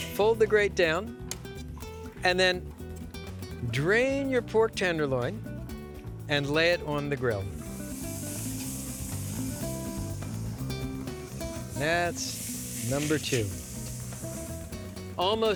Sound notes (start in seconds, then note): 7.4 sizzling